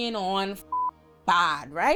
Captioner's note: beep